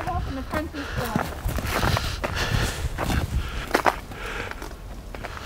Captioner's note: panting